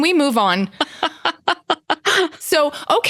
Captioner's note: laughs